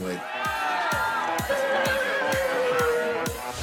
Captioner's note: crowd cheering